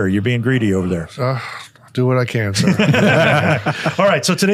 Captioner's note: everyone laughs